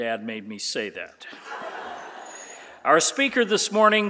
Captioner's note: laughing